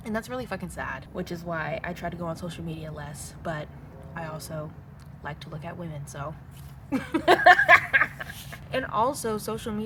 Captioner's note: laugh